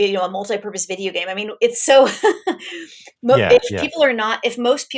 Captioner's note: laughs